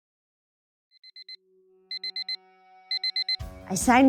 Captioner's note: alarm clock beeping